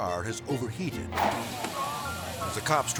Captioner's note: car sizzling; air swoosh